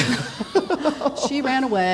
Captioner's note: laughing